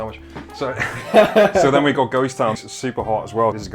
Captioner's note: laughter